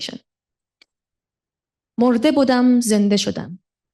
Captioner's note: non-english speech